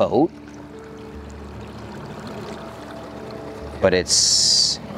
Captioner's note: water sloshing